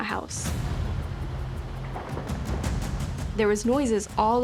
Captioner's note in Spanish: tintineo